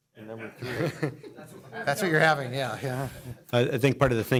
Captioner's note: laughter